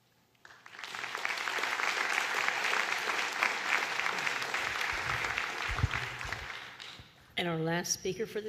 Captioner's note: applause